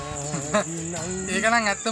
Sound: laughing

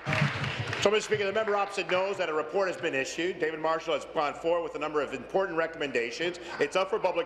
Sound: applause

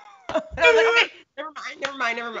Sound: both laughing

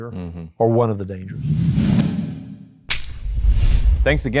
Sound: air whooshes

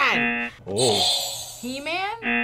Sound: buzzer rings; buzzer rings

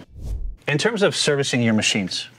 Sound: air swooshing

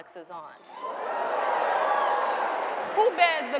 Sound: audience cheering

